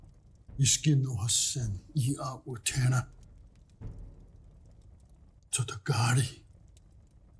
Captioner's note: speaking Cherokee language